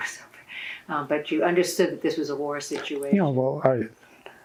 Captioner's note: laughing